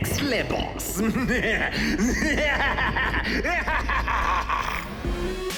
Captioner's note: laughs evilly